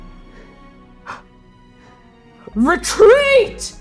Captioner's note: heavy breathing